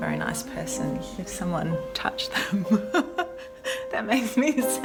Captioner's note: laughs